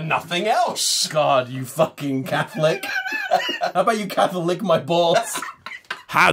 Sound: laughter

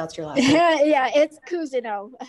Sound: laughs

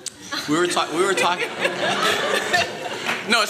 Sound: laughter

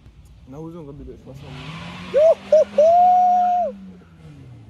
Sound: tires squealing

